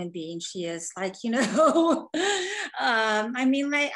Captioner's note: laughing